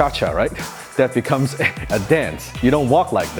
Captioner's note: laughing